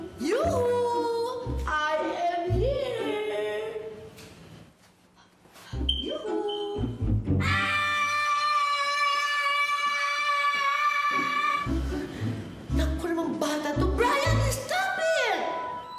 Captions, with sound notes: Yoo-hoo! I am here! Yoo-hoo. [screaming] Silly kid. Bryan, stop it!